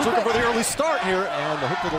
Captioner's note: crowd cheering